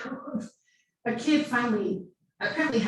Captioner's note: laughing